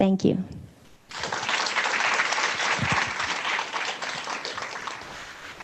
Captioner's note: audience applauding